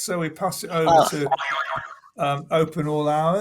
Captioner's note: boing